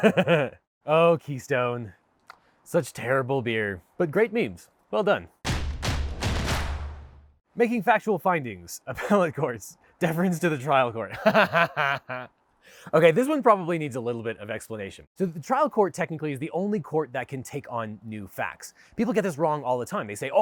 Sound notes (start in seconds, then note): 5.4 drums beat; 11.5 laughs